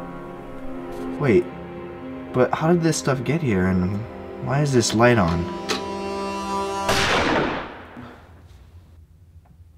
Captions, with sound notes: Wait, but how did this stuff get here? And why is this light on? (gunshot)